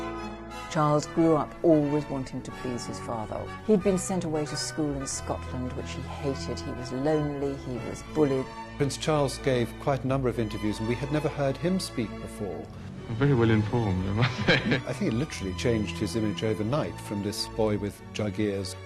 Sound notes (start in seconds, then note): 14.1 laughs